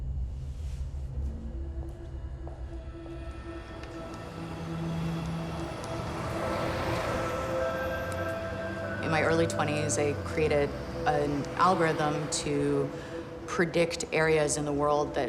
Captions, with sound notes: (footsteps) (city noises) (mysterious music) In my early twenties I created an algorithm to predict areas in the world that would